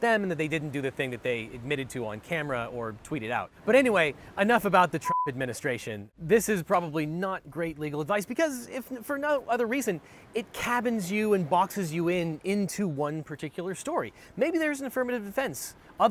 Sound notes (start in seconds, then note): 5.0 beep